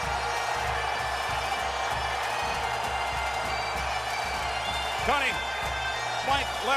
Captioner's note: crowd cheering